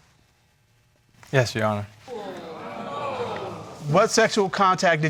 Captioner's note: audience exclaiming